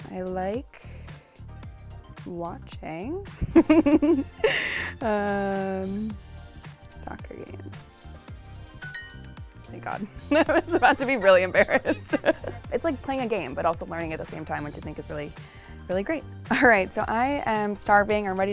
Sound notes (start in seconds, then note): 3.5 laughs; 8.9 phone chimes